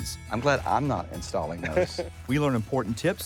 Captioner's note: laughing